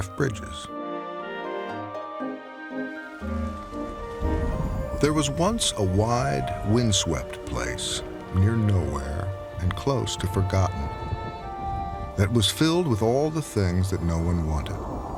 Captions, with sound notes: (gentle music) (rain trickling) There was once a wide, windswept place near nowhere and close to forgotten that was filled with all the things that no one wanted.